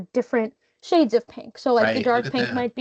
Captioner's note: chuckling